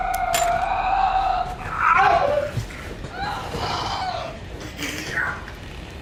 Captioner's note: screams, groans; gasping